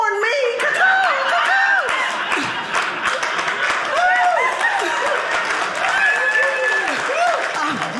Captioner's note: audience laughing